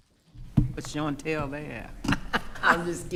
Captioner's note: laughing; laughs